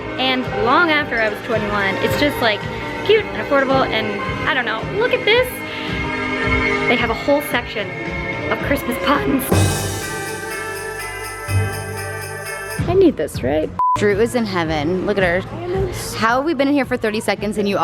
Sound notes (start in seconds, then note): 9.0 christmas music; 13.8 beep